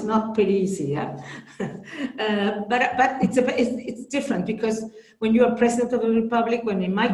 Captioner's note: chuckles